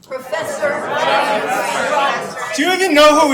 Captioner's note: attendees clamoring